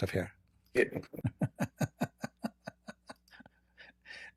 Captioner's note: Ketawa